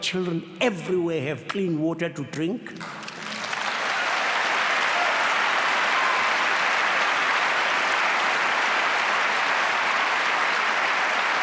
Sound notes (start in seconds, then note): 2.8 applause